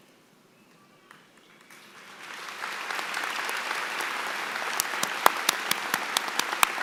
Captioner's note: applause